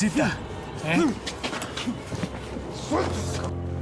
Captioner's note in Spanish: gruñidos